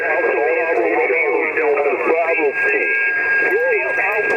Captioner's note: radio static